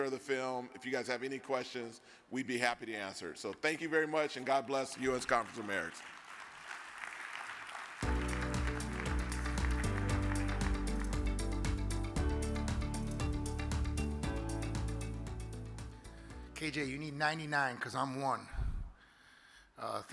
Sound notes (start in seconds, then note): 6.0 audience claps; 8.0 upbeat music